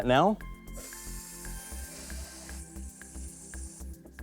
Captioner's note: water gushing